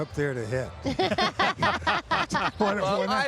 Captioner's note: everyone laughing